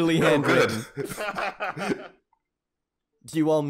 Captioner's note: laughter